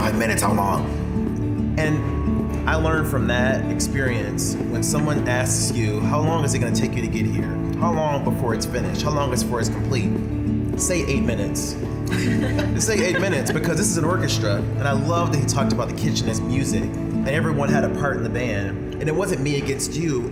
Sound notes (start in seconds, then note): 12.1 all laughing